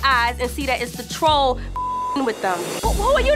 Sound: beep

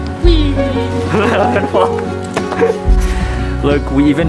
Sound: laughs

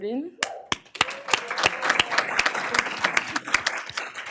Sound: applause

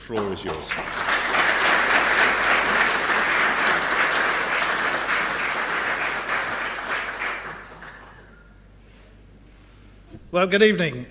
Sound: applause

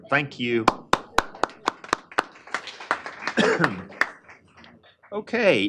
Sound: applause

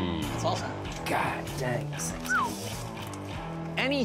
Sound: whistles

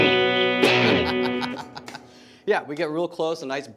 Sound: guitar chords; laughs

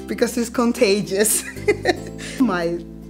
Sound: laughing

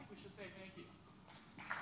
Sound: applause

